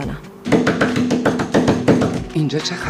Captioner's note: door knocking